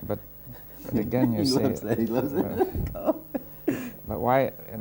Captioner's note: laughs